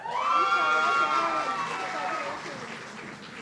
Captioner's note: audience cheering